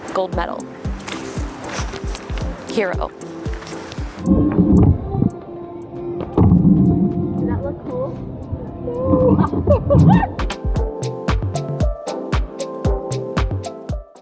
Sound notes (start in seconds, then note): 8.8 laughing; 11.0 upbeat music